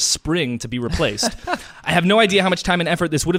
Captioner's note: laughs